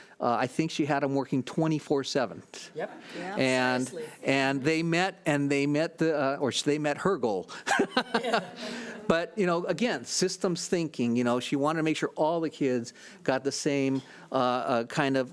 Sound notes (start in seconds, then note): 3.0 overlapping chattering; 7.6 laughs